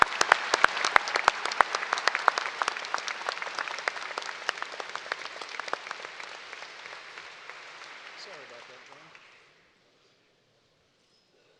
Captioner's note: applause